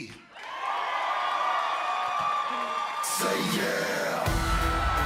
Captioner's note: cheers and applause